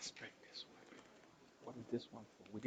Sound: off-mic whispering

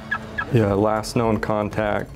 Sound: alarm beeps

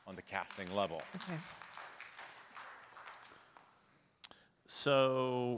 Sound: audience clapping

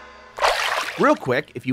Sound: water splashing

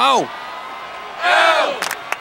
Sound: crowd; crowd chants

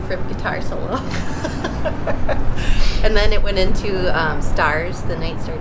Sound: laughter

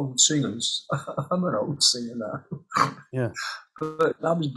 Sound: he laughs

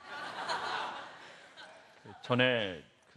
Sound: laugh

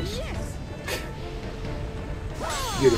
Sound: laughs

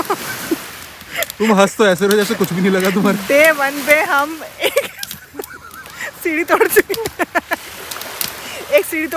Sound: laughing; laughing

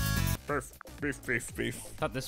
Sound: humming

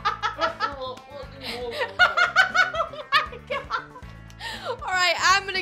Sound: laughing

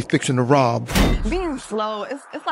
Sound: screen dongs

